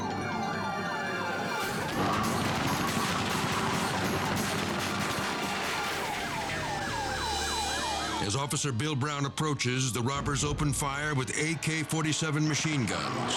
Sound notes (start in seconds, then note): 0.0 sirens screaming; 1.6 glass shattering; 1.6 gunfire banging; 6.2 car alarm screeching